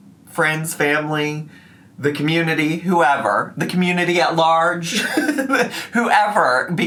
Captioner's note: laughs